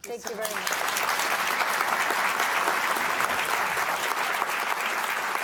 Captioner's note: audience applauding